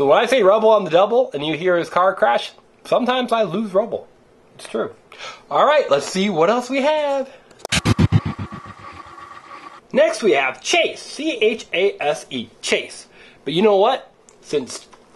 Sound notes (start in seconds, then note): 7.7 helicopter blades